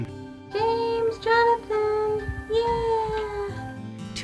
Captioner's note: sweetly